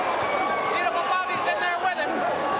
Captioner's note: crowd cheering